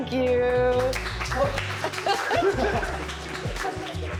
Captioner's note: all applaud